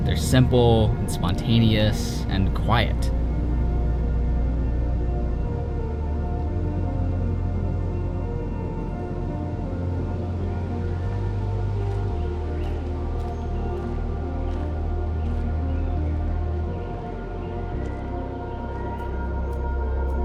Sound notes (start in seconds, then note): 11.6 birds chirping; 13.1 footsteps